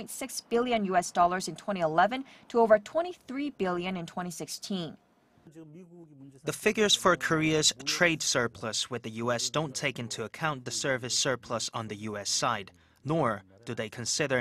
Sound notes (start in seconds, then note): 5.2 Korean